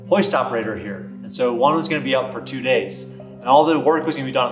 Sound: none

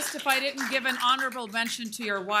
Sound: applause

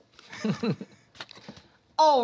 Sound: laughter

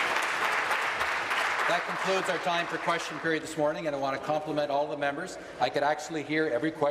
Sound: applause

